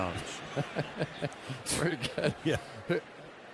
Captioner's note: laughs